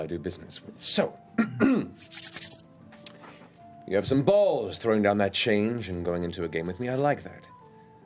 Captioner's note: clears throat